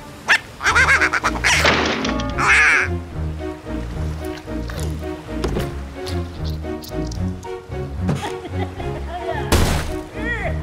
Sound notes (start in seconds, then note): 0.2 quacking frantically; 8.1 evil laughter